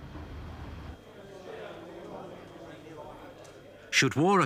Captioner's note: soldiers chattering